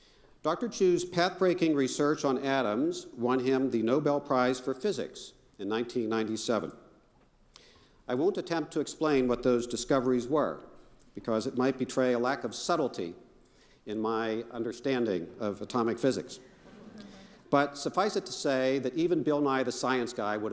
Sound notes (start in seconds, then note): 16.5 crowd chuckling softly